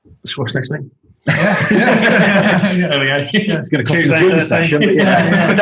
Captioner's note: group laughing